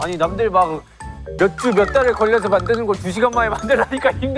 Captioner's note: whining